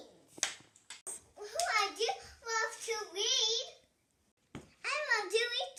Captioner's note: clapping